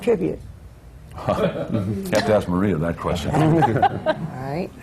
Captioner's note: laughs